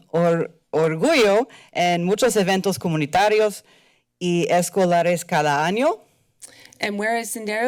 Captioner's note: foreign language